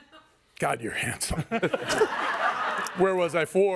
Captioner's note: everyone laughs